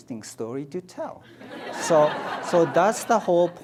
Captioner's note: audience laughs